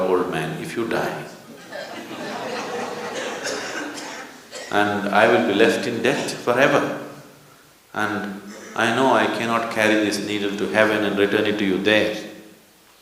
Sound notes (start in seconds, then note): 1.5 laughter